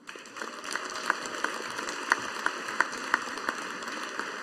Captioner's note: audience applauding